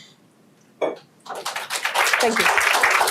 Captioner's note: applause